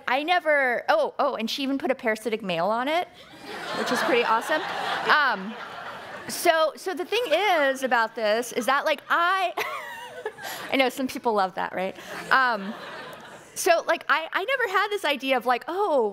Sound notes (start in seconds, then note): 3.3 audience laughing; 9.2 laughing